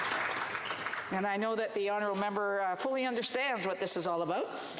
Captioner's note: applause